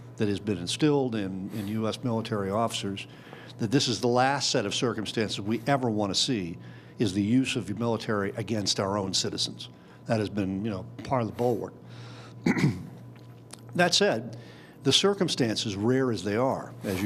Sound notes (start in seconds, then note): 12.4 clears throat